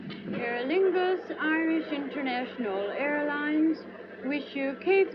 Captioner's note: loudspeaker